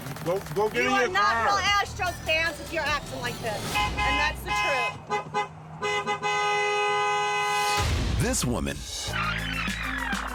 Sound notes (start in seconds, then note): 1.4 horns honking; 5.3 honks honking; 9.1 rewinding tape squeals